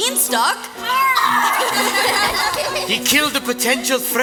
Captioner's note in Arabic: صوت مزعج، وصراخ مسرحي، ضحك